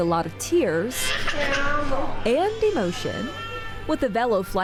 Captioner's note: baby cries